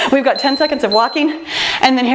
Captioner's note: timer beeps